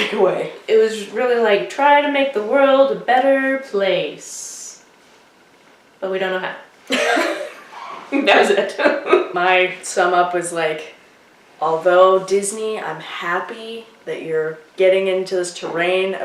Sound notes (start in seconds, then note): 6.9 laughter